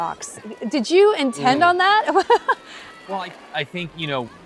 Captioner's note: chuckles